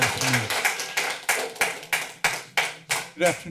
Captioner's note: applause